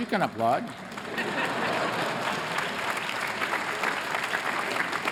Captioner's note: applause